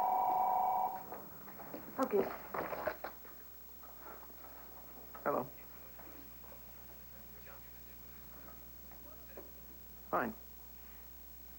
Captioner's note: telephone rings